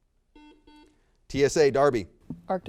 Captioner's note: buzzer beeps